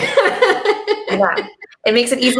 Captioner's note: laughing